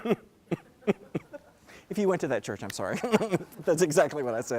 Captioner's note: laugh